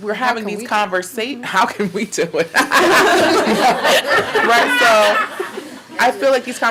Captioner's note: laughing